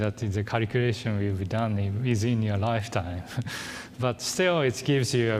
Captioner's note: laughs